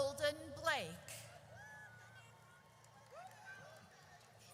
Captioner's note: audience cheers